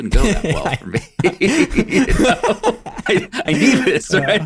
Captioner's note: laugh